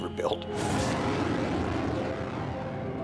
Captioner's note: engine roaring